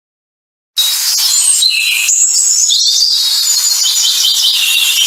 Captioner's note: birds chirping